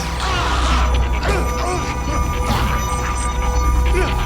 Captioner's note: screaming